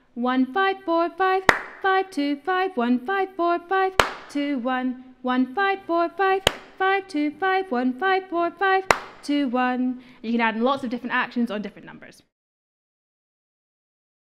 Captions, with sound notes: "one five four five [clap] five two five, one five four five [clap] two one" "one five four five [clap] five two five one five four five [clap] two one" You can add lots of different actions on different numbers.